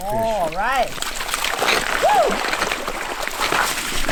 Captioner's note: water sloshing